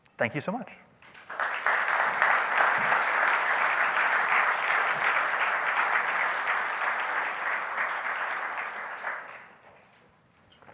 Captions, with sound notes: Thank you so much. (audience applauds)